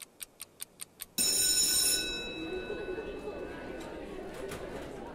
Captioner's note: bell ringing